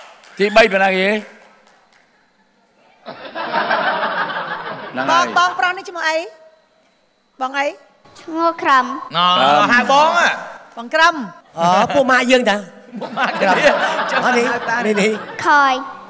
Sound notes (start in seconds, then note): 3.0 laughter